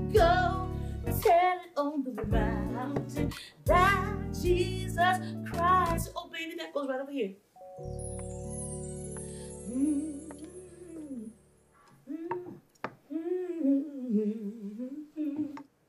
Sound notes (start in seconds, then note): 9.8 humming